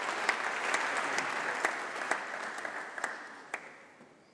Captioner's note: applause